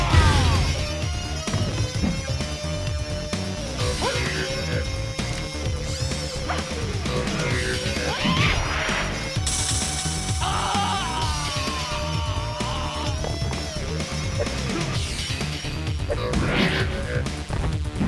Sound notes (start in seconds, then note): 10.4 screaming in agony